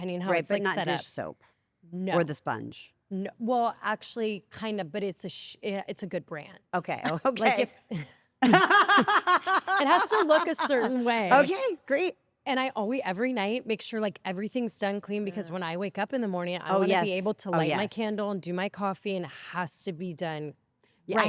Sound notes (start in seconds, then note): 8.4 laugh